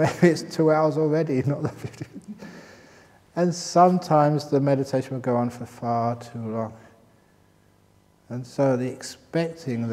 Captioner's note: laughs